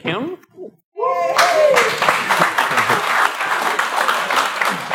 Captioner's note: applause